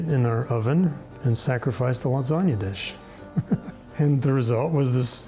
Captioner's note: laughing